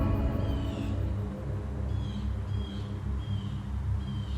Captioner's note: bird cawing